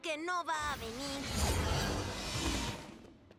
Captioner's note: whoosh